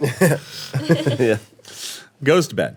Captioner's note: laughing